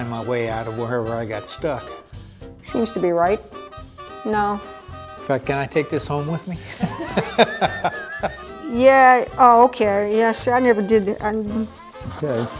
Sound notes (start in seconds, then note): 6.6 laughs